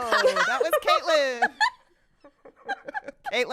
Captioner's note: laughter